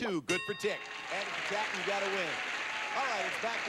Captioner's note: audience applauding